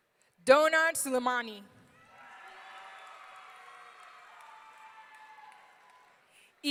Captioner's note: audience cheering